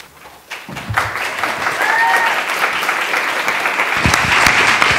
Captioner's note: attendees applauding